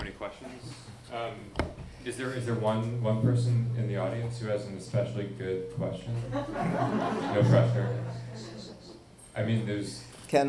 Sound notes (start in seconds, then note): 6.2 audience laughing